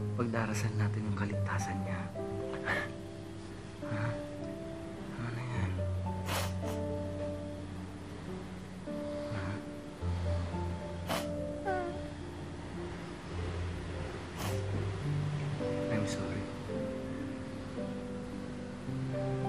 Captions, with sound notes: -We will pray for his safety. -[sniffles] Okay? -Enough of that. -[sniffles] -Neng? -[sniffles] Hmm? -[sniffles] -I'm sorry.